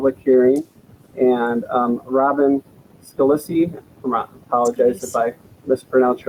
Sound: murmurs

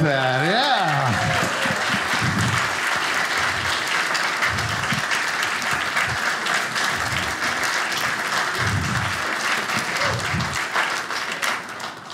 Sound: audience applauding

